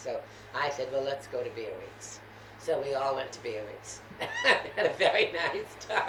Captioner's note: laughter